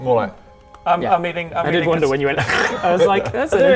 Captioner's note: crunch